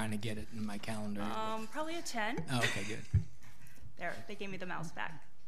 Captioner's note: laughing